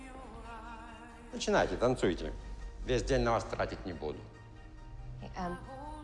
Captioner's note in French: parler russe